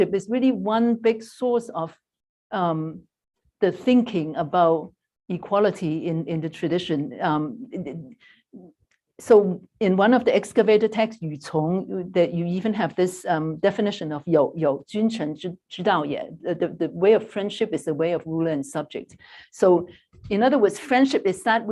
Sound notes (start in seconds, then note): 11.1 non-english; 14.4 non-english speech